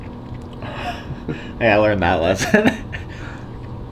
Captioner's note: laughs